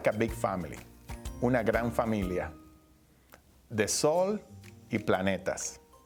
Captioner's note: speaking Spanish